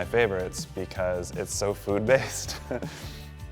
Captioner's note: laughs